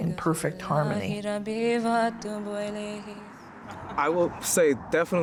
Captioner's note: arabic chanting continues